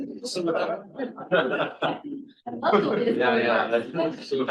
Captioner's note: trustees chuckling